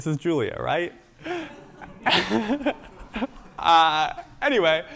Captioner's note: laughter